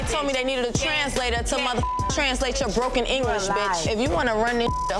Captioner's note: beep; beep